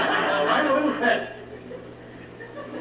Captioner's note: laughter